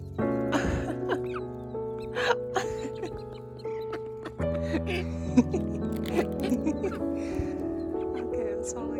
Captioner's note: laughs